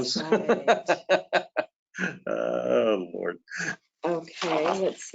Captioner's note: laughs